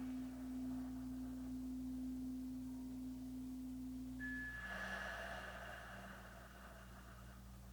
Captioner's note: chimes ringing continues; slow breathing continues